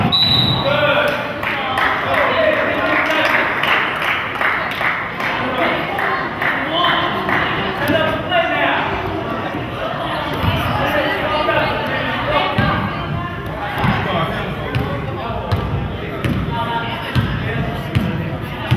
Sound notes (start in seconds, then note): 0.0 whistle blows; 3.5 crowd claps